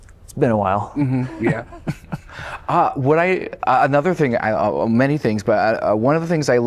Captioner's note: laughter